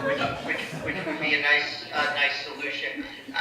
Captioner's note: laughter